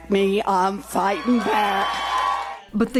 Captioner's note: cheering and applause